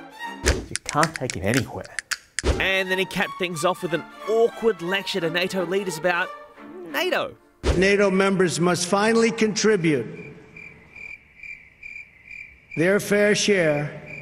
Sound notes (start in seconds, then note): 10.1 crickets